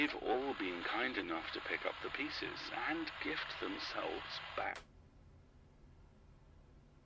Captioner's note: button clicks, static cuts off